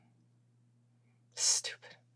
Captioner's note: none